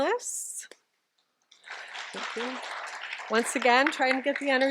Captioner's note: applause